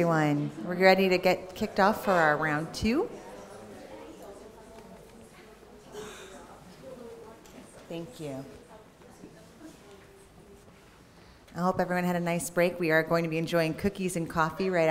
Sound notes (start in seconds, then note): 3.0 audience talking